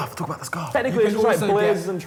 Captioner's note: whispers